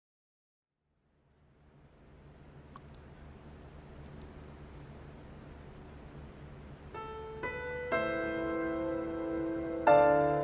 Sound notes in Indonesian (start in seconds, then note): 1.0 Suara Keyboard; 1.4 Suara Kipas